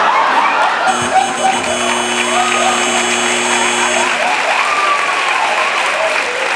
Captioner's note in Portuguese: campainha e aplausos